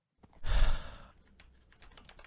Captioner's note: sigh